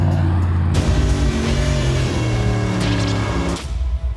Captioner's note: revving